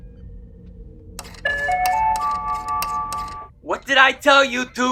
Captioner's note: P.A. tone